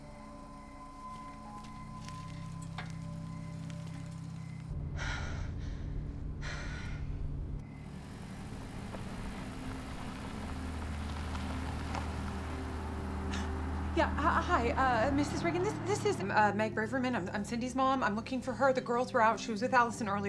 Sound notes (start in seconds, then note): 4.5 panting